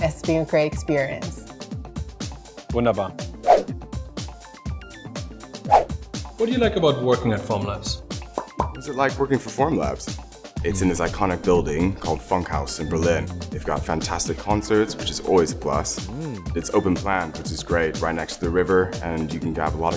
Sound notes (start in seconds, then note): 3.7 whoosh; 8.4 pop pop